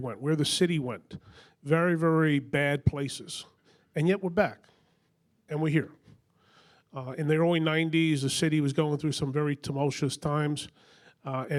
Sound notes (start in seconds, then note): none